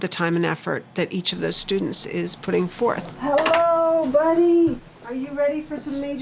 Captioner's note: none